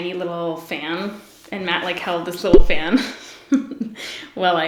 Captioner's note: giggles